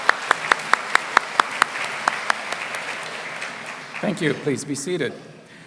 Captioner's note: applause